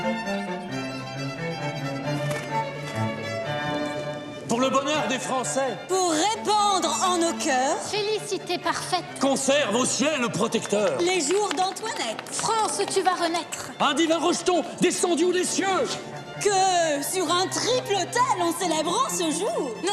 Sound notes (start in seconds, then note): 0.1 bright orchestral music; 4.5 bright music; 4.5 people speaking in French